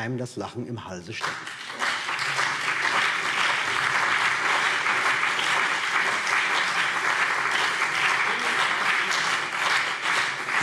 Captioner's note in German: Beifall BÜNDNIS 90/DIE GRÜNEN, vereinzelt CDU und SPD